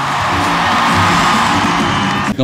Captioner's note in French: cris du public